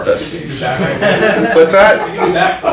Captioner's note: audience laughs